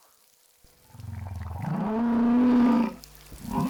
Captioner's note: whale bellowing